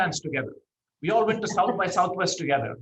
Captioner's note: laughs